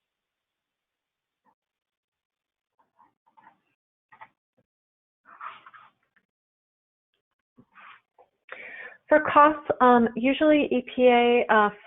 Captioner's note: silence